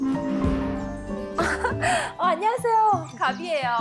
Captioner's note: pretty-girl laugh